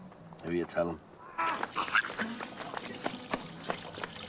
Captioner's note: Reír